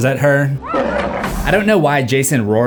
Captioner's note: roar